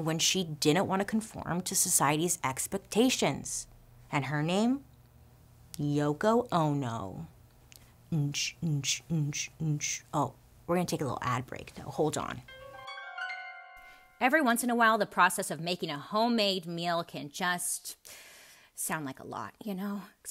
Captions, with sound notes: when she didn't wanna conform to society's expectations and her name, Yoko Ono. (hums rhythmic beats) Oh, we're gonna take a little ad break though. Hold on. (light musical tone) Every once in a while, the process of making a homemade meal can just sound like a lot, you know,